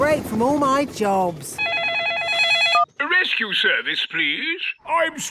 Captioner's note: phone ringing